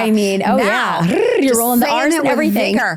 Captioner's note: trills